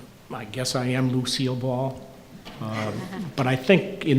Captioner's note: chuckling